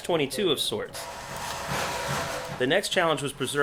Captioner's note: tools thumping